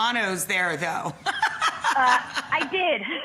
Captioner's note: laughing; chuckling